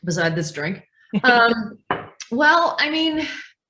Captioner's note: laughs